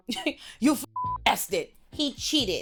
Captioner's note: beep